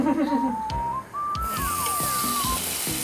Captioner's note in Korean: 치이이익